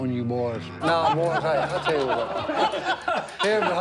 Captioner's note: laughter